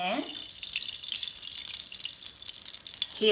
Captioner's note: oil sizzles